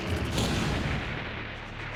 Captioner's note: explosion